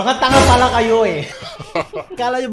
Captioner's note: laugh